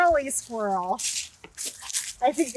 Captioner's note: footsteps crunch leaves